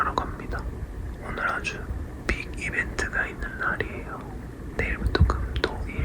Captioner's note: big news, whispered quietly